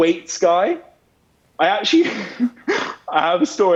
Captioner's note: laughs